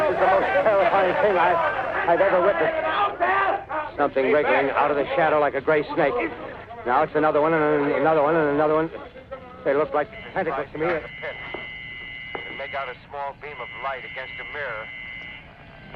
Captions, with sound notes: this is the most terrifying thing I've ever witnessed. (people shouting) Something wriggling outta the shadow like a gray snake. Now it's another one and another one and another one. They look like tentacles to me. I can make out a small beam of light against a mirror.